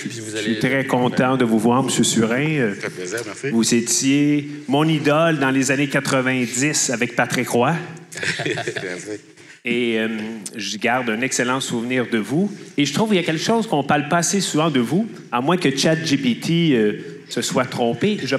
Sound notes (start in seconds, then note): 8.1 laughs